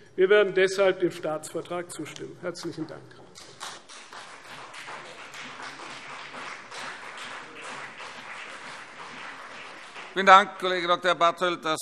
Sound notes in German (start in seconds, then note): 3.3 Beifall CDU und BÜNDNIS 90/DIE GRÜNEN